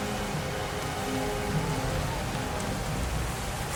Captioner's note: water splashing